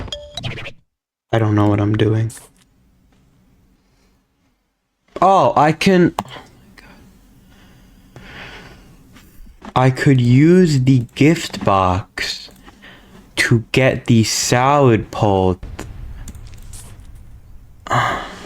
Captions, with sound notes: I don't know what I'm doing. Oh I can use Giftbox. oh my God [ Inhales Oxygen. ] I could use the Giftbox. [ Inhales Oxygen. ] To get the Salad-pult. [ Exhales Oxygen. ]